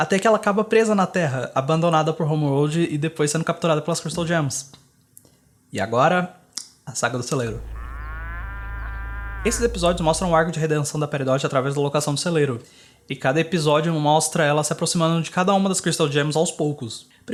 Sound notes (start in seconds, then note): 7.4 muuu